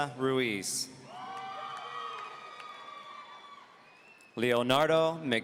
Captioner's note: audience cheering